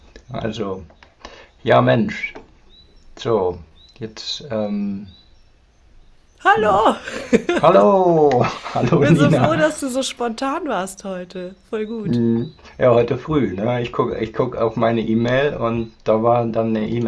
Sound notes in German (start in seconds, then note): 6.4 gelächter